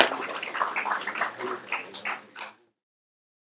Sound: applause

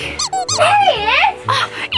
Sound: squeaking

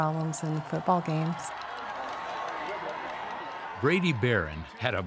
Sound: crowd cheering

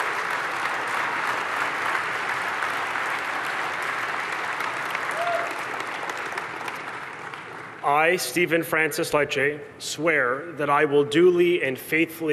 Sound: cheers and applause

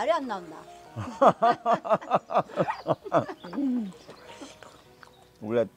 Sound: both laughing

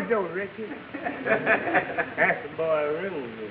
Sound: audience laughing

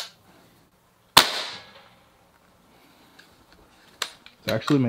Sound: gun cocks; gun fires; gun cocks

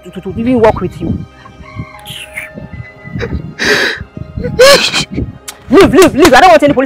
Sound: still crying

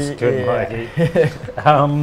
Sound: chuckles

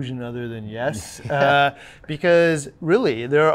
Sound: laughs

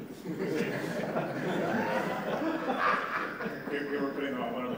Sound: laughter

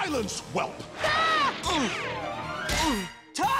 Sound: screaming, grunting

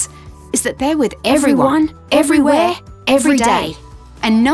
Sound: multiple Voices

